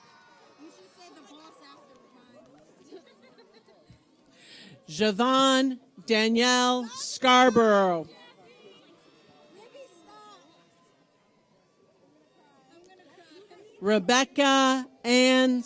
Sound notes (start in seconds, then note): 2.9 laughing